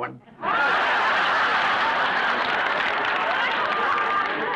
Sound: audience laughs

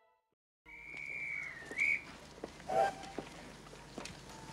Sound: Guard's whistle

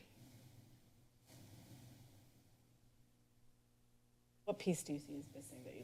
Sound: silent

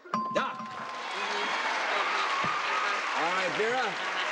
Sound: applauding

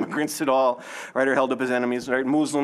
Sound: laughing

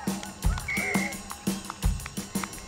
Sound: whistle blows

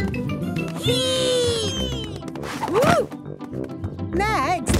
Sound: thumps

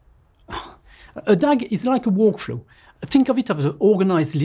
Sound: exhales

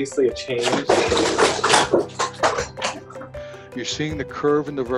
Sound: poster falls

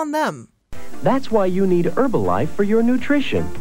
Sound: voice-over

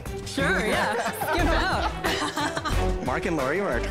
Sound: laughs

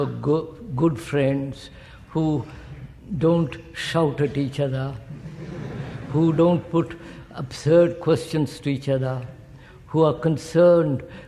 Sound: laughter

